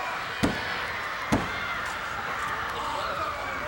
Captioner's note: hand thuds